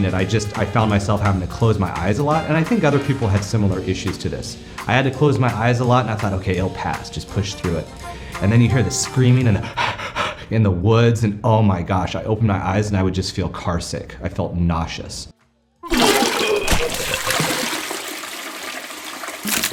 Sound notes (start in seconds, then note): 9.4 heavy breathing